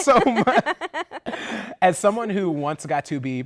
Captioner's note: laughter